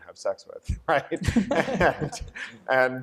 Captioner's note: laughter